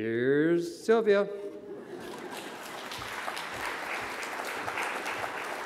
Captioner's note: audience clapping